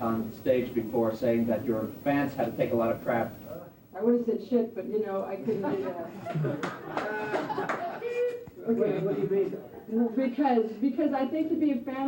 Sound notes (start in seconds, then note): 5.4 laughter; 6.6 applause